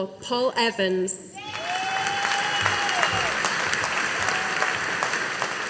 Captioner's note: audience applauding